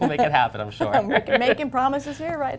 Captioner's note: laughter